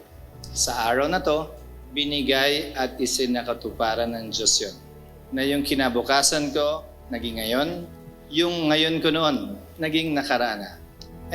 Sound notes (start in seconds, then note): none